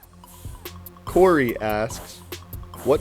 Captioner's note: voiceover